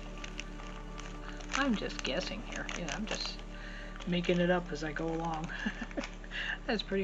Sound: chuckle

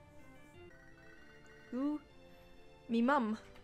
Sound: phone ringing

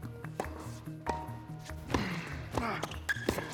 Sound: ball bouncing; racket smacking; Marshall grunting; Phillip grunting; racket smacking

